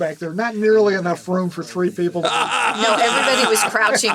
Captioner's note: laughing